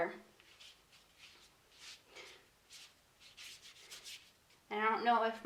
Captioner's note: paintbrush scratching